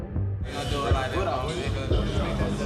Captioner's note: indistinct conversations